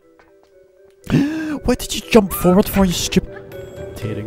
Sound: gasps

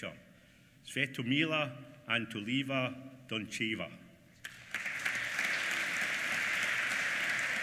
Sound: applause

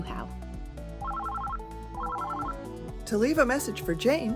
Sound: ring Tone

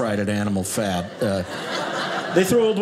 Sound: audience laughing

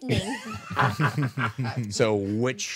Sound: group laughing

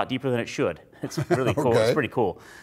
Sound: laughs

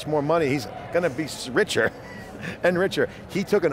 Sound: laughing

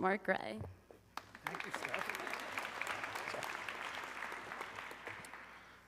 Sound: audience clapping

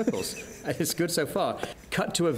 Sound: laughter

